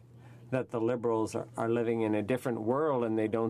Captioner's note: speaking in french